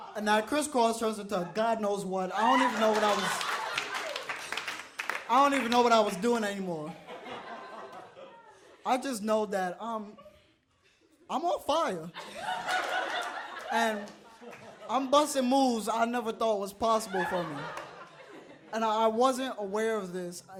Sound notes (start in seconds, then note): 2.5 audience claps; 6.8 audience laughs; 12.1 audience laughs